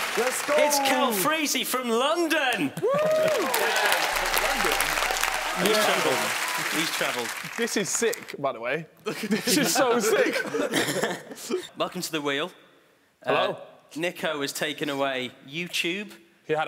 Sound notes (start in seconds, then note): 2.7 cheering; 10.4 chuckling